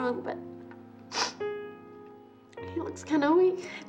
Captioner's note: sighs; sniffs